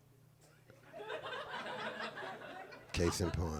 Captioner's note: group chuckling